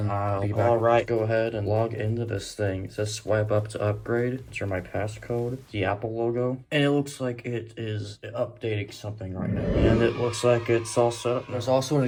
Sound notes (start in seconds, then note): 9.3 iMovie Theme transition sound effect; 10.0 kids Cheering sound effect continues, then wanes; 10.0 kids Cheering sound effect